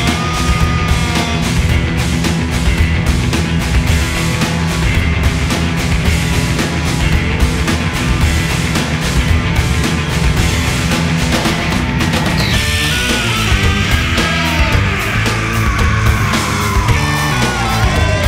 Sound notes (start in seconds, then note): 11.3 screaming